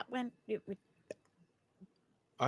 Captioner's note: pops lips